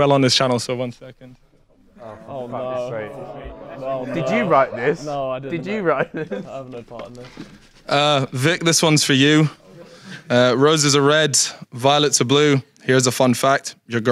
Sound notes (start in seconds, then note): 1.7 audience groans; 1.8 Sidemen groan